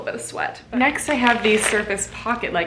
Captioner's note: packet crinkling